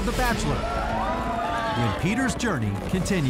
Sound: crowd cheers

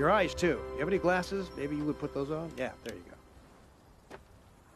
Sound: fire crackling

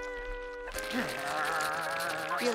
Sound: growling

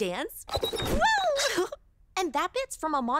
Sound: laughs

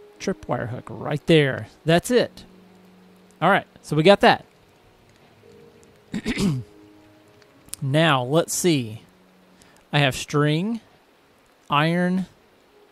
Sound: clears throat

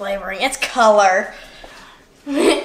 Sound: laughing

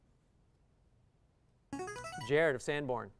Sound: player buzzer

